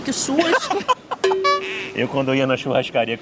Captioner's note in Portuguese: risos